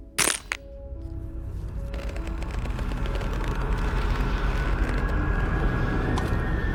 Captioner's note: ominous music; locks click